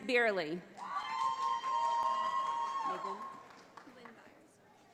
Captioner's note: audience applauding